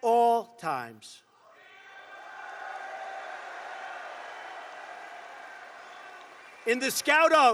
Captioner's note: applause